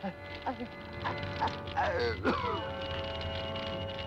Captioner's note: groaning